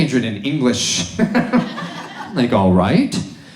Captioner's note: audience laughs